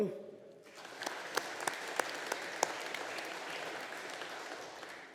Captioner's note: audience applauding